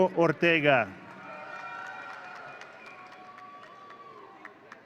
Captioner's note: audience cheering